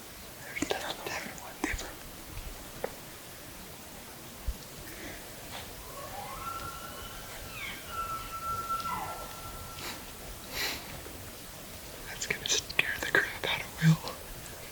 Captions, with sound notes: There’s another one. Different one. Different. (caller bugling) (cows calling) That's going to scare the crap out of Will.